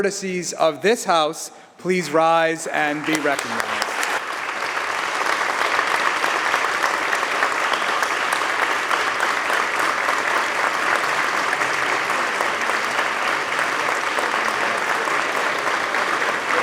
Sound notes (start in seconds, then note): 2.0 applause